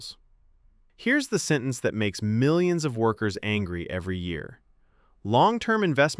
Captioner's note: thoughtful